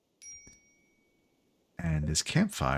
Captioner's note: silence